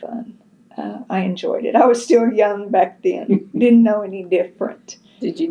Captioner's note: laughs